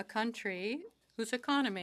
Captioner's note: speaking French